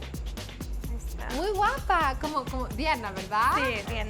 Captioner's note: speaking Spanish